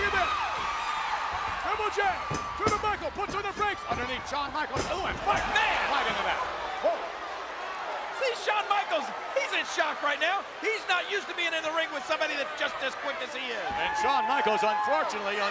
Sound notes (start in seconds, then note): 3.7 audience groans; 5.1 body thuds